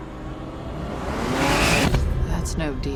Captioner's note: car engine revs